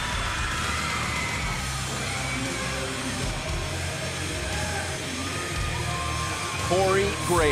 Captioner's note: crowd cheering